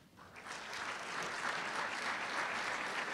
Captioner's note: applause